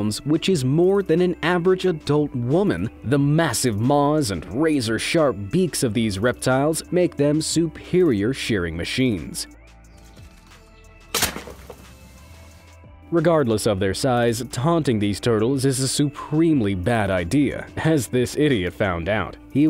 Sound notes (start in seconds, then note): 11.1 loud crunching